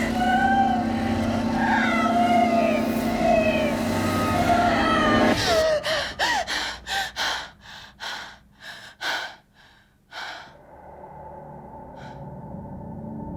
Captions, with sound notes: - No! Help me, please, help! (gasping and panting) (ominous music)